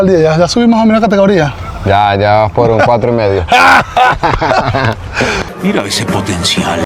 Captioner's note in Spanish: risas